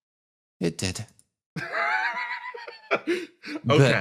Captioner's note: laugh